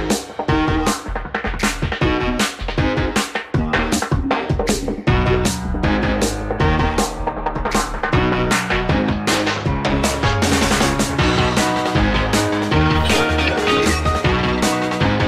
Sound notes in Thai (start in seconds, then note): 13.0 เสียงกดปุ่ม